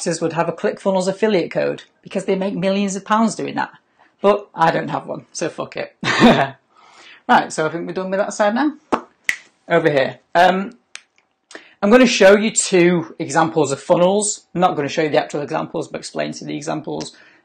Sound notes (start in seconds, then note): 5.8 laughs; 9.2 mouth pops